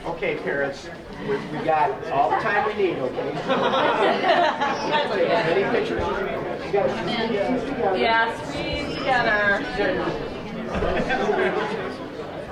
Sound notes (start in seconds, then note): 3.2 laughing; 7.9 group chattering